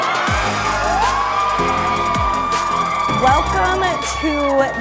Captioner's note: group cheering